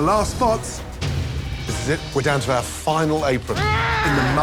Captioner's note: growls